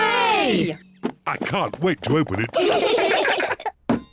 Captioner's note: all giggle